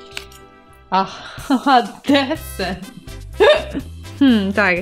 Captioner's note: laughs: D